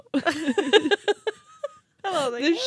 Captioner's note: chuckling